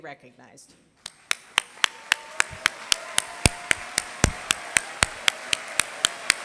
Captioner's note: applause